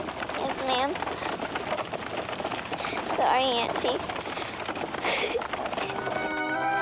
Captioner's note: cries